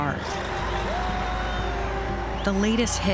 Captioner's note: horn honking, crowd shouting